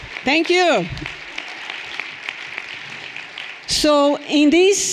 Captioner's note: everyone applauding